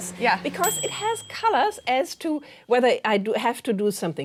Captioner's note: microwave chiming